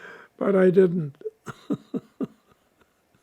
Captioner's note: laughing; laughing